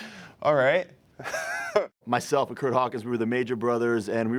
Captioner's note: laugh